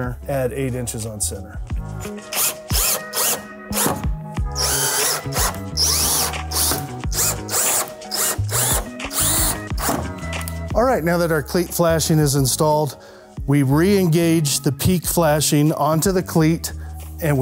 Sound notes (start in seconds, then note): 2.2 drill whirring; 2.2 lively music